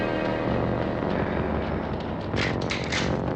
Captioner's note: rifle cocks